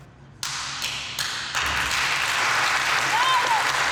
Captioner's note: crowd applauds